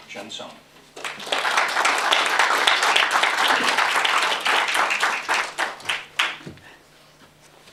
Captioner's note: applause